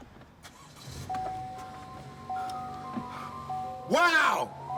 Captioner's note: engine revs